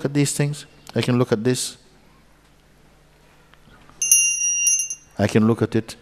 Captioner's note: Mooji rings the bell